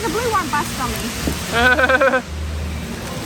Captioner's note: laughs